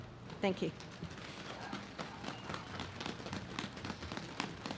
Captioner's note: audience claps